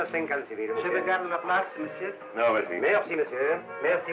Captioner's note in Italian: lingua francese